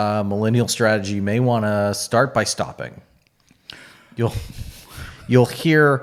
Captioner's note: laughs